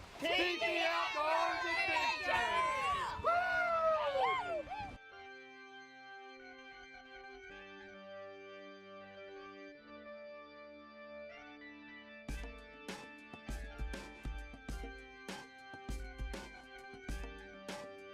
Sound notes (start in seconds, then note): 3.4 hooting; 4.7 funky organ music